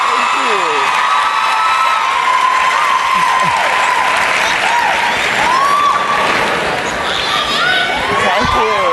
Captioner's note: cheering and Applause